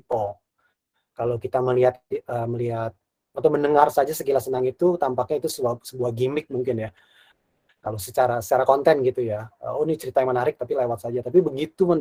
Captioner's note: non-english speech